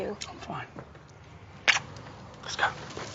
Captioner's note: kiss smacking